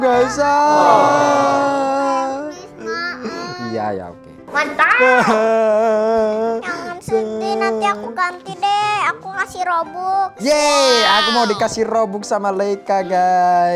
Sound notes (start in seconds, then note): 4.8 crying